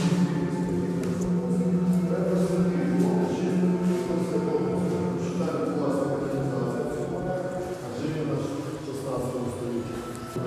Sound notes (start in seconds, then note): 0.0 echoing buzz